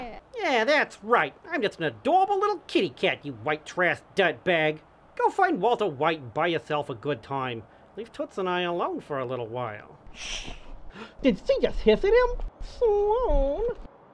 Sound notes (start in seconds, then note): 10.0 hiss!!!